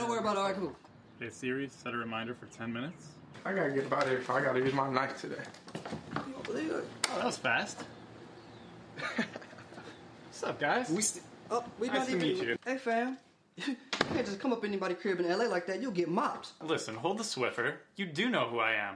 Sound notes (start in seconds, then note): 8.9 Jay laughs; 11.0 KP and L stutter